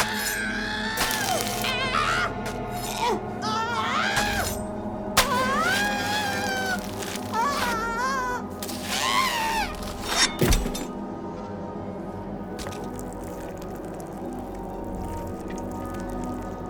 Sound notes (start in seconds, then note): 0.1 Judith continues screaming; 0.1 cleaver thudding; 5.2 flesh squelching; 5.2 Judith continues screaming; 9.8 body thudding; 12.5 blood and flesh squelching